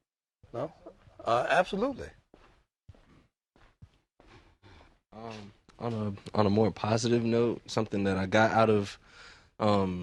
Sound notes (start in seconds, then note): none